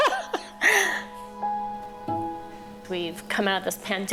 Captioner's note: laughing